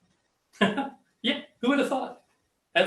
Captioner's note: laughs